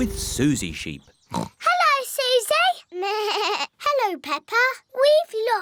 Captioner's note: oinks; bleats